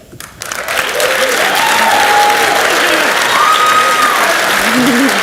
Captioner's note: audience cheers and applauds